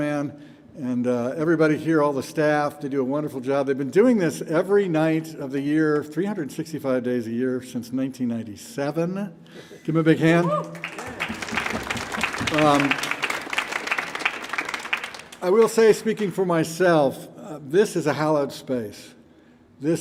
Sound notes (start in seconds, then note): 10.5 audience applauding